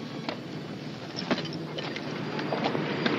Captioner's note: vehicle approaches